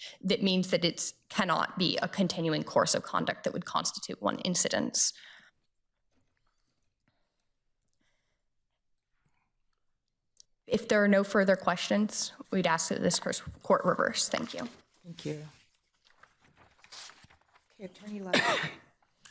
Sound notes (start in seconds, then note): 16.1 paper rustling